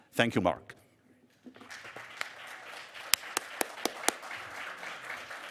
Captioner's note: audience applauding